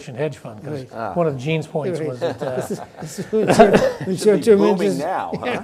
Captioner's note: panelists laugh